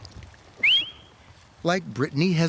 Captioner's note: whistle